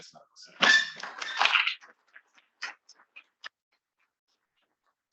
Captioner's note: attendees applauding